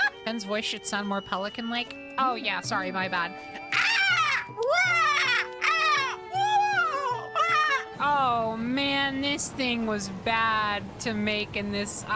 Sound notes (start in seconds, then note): 3.7 pelican Noises